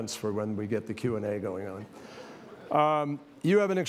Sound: laughter

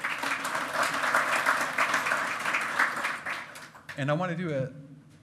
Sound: loud clapping

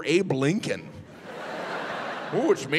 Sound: audience laughing

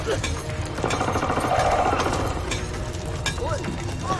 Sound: centipede growls

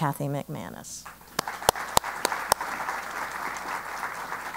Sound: applause

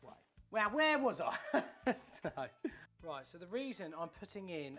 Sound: laughs

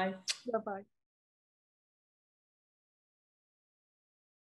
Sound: lips smacking

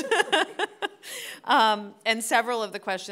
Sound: panelists laughing

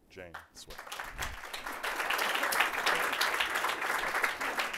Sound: applause

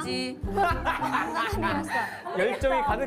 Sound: cracking up

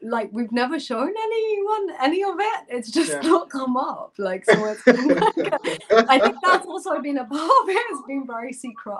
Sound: laughter

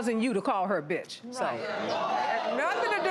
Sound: crowd chatters

